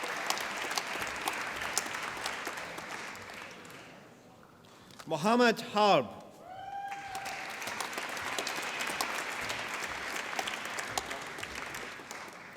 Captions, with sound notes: Mohamad Harb. (APPLAUSE)